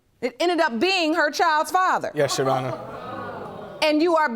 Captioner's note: audience gasps